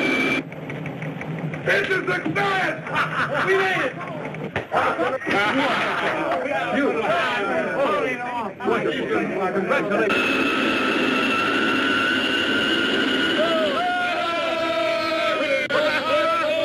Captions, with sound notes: - It's a success! (laughs) (men chattering) (capsule squeals) (crowd cheering)